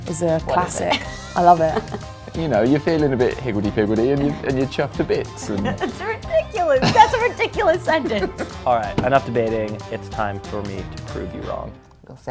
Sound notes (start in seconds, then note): 0.8 laughs; 5.5 laughs; 8.8 bangs on table